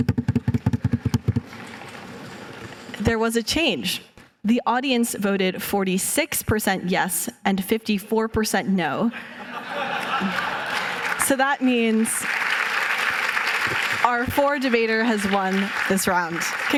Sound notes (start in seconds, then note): 0.0 drum roll; 9.5 laughter, applause